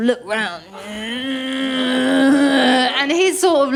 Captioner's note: creaking sound